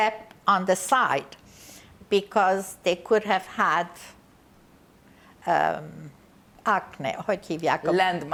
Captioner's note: non-english